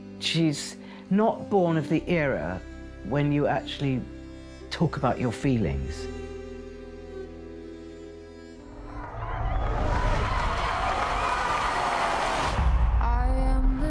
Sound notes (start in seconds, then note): 7.0 sad music; 8.8 crowd cheers